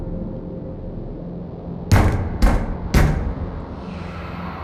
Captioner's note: knock. Knock. Knock